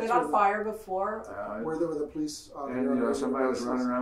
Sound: murmurs

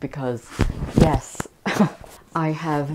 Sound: laughter

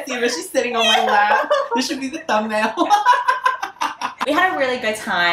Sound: laughter

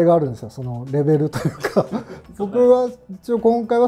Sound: laughing

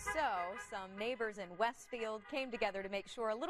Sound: horns honking

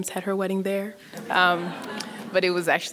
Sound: audience laughs

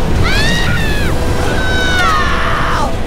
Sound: screams

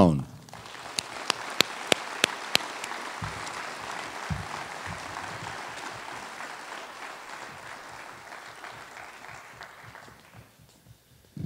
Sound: applause

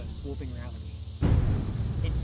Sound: thunder rumbling

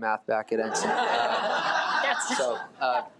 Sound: audience laughs

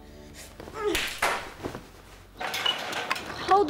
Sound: grunts

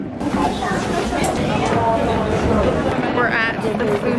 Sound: footsteps on stairs

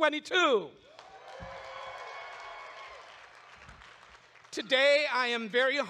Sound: audience claps and cheers

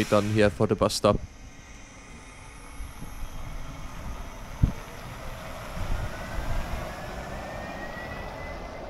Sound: electric bus noise

